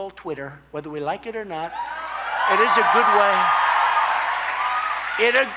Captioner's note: applause